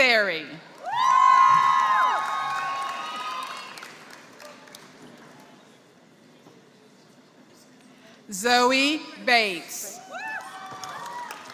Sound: applause; applause

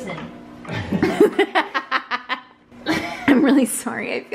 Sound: laughing

